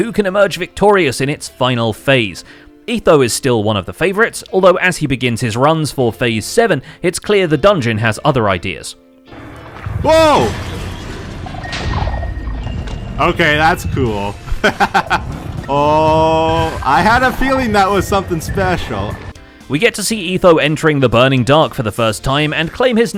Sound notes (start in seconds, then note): 9.3 TNT explodes; 14.6 laughs